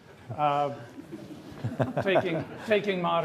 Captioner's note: all laughing